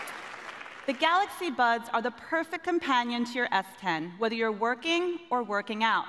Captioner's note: applause